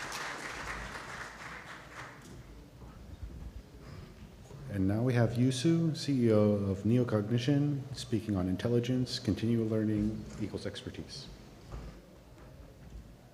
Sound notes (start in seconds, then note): 2.8 applause